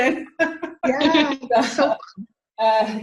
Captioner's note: laughing